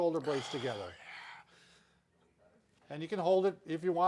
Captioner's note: exhales